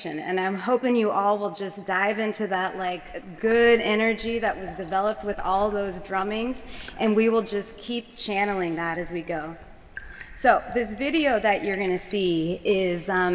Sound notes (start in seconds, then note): 6.7 audio of water playing